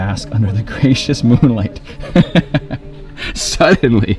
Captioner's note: laughing